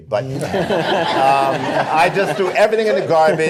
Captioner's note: laughter